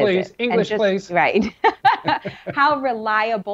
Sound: chuckles

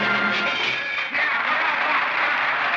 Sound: applause

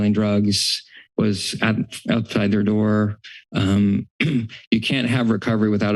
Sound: clears throat

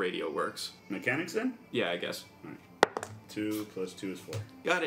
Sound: rolls dice

